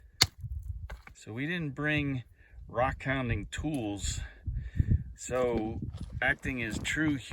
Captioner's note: pounding noises